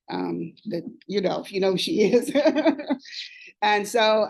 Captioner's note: laughs